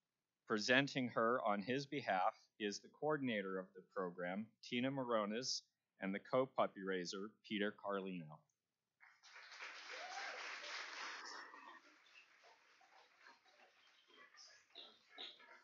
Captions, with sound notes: facility. Presenting her on his behalf is the coordinator of the program, Tina Morones and the co-puppy raiser, Tina Carlino. (Cheers and applause).